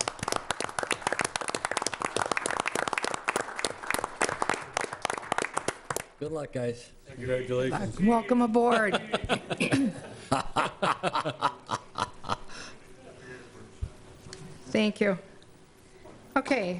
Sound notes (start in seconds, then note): 0.0 applause; 10.7 laughter